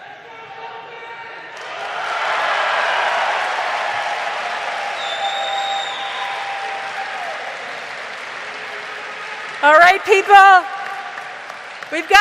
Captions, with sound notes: (crowd chanting) All right, people,